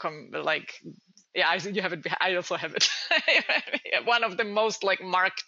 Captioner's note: giggling